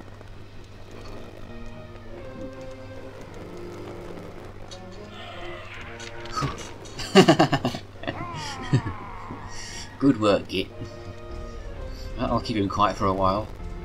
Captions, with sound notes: *laughing* Good work, Git! That'll keep him quiet for a while!